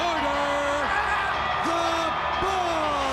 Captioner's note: audience cheers